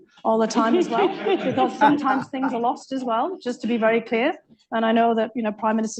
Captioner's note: laughter